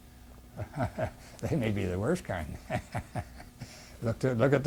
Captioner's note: laugh